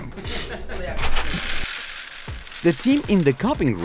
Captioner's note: rattling